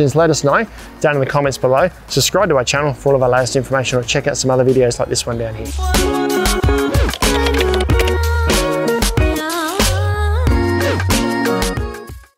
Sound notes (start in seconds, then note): 5.5 upbeat music; 6.5 keyboard clanking